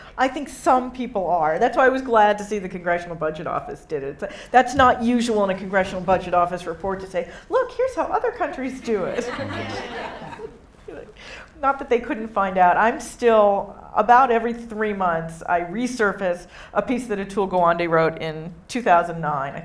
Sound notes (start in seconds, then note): 9.0 audience laughing